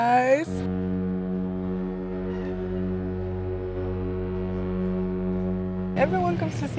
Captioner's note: ship honking